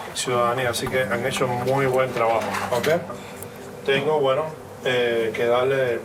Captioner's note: instructor continues speaking in Spanish